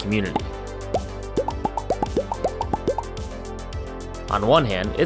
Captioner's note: convo bubbles popping